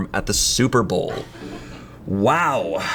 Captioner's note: colleague laughing